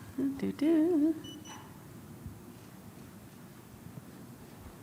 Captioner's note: car alarm beeping